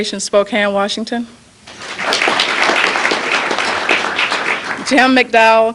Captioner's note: applause